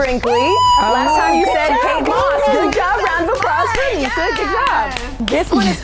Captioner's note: applause